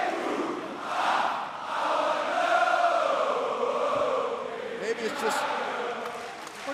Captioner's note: crowd cheering